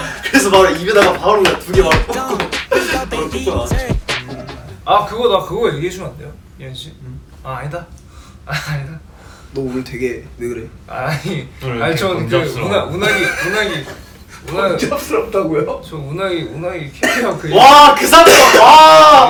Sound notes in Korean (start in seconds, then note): 13.0 웃음